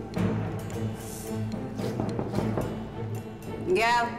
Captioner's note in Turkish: Kapı çalıyor